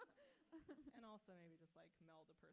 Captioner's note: author laughs